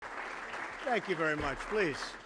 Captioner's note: applause